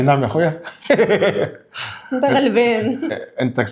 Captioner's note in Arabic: ضحك